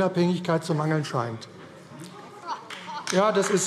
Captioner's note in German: Beifall AfD - Lachen SPD